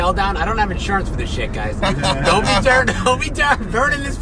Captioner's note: laughing